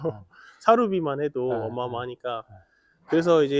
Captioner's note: laughs